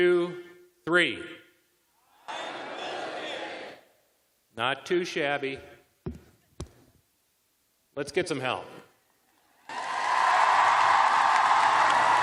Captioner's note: cheering